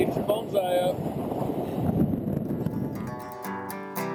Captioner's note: wind blowing; bluegrass music